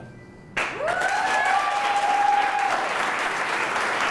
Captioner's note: applause